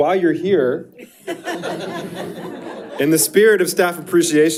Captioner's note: board members chuckling; audience chuckles